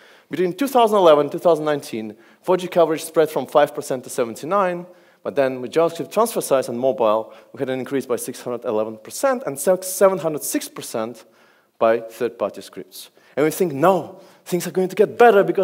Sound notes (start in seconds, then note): none